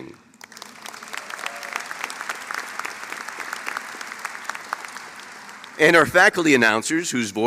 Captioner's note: applause